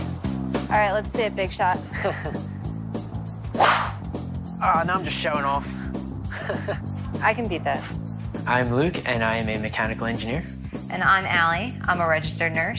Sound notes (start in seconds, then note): 1.9 laughs